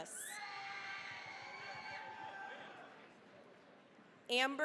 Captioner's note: cheering, applause